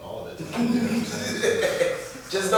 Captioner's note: laughter